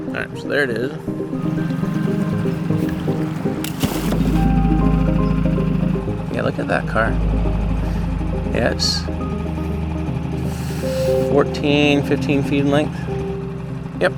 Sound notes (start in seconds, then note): 4.0 water splashes